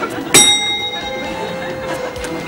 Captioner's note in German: Klingeln